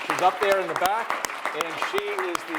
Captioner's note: audience applauds